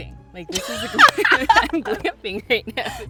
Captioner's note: laughs